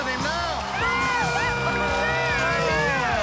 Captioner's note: yelling